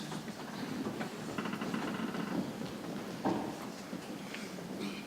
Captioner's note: people chattering softly